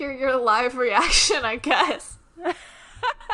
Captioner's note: laughs